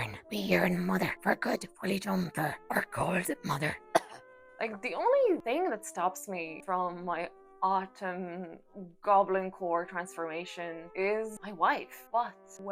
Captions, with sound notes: we yearn, mother for a good wooly jumper. We are cold, mother. (coughs) Like, the only thing that stops me... from my Autumn Goblin core transformation is my wife but